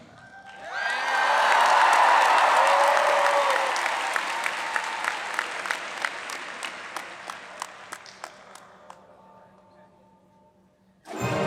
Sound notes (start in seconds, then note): 0.4 audience applauds